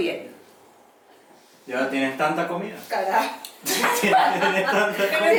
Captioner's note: laughs